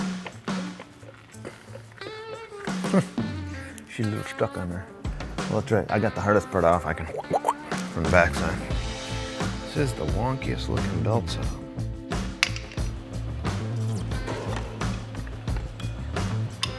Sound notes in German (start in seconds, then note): 7.2 imitiert ein Werkzeug; 12.9 fröhliche Instrumentalmusik